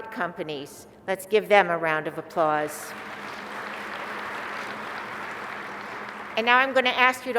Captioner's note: applause